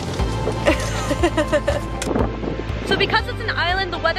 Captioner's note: laughs